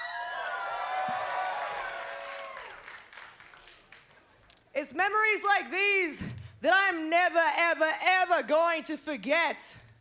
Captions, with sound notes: (crowd cheers) It's memories like these that I'm never, ever, ever going to forget.